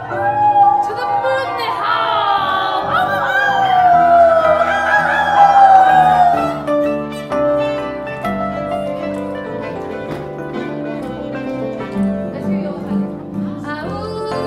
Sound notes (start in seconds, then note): 0.1 sound of audience howling; 3.2 the band and audience all howl